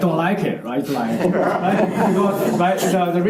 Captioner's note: chuckles